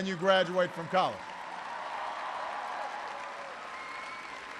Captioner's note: applause